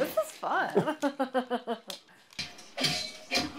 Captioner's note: laughs